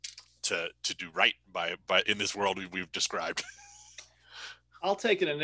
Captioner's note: chuckles